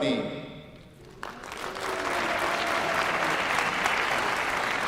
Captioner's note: applause